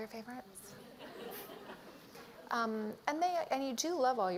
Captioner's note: laughter